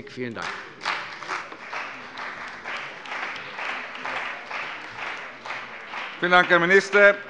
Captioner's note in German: Beifall bei der CDU und dem BÜNDNIS 90/DIE GRÜNEN